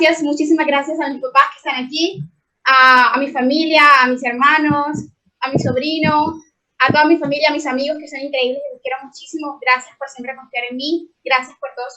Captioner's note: speaking in foreign language